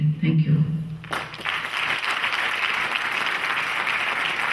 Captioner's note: clapping